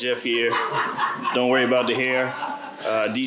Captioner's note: laughter